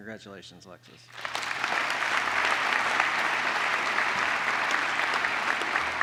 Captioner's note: applause